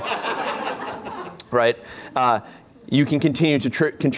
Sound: laughter

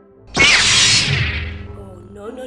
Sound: beam rod sounds

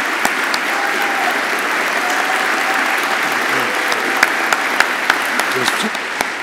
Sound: audience applauding continues

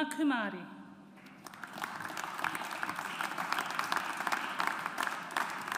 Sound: audience applauds

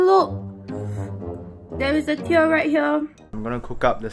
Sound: inhale

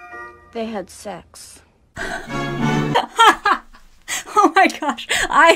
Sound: laughs

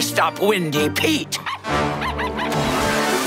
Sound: barking

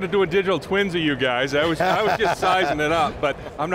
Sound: laughs

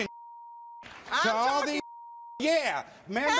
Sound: beep

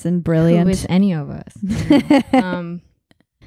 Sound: laughing

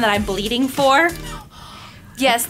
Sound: gasps

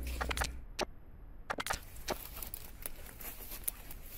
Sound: camera clicking

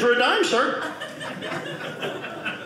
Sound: audience laughing

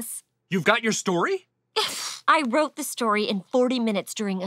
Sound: scoffs

